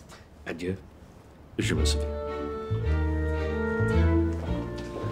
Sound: Mr. Darvis bids them a 'good evening' in French

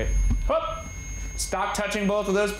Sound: yelping

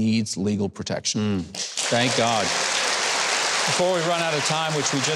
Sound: audience applauding

